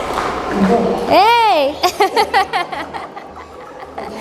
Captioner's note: laughs